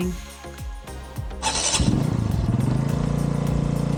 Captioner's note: motorbike starting